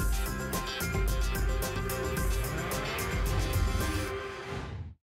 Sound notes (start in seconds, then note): 2.1 whoosh